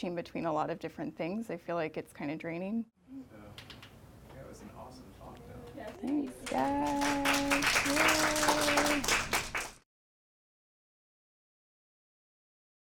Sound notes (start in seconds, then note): 6.0 audience applauding